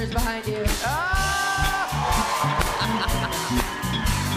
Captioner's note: laughs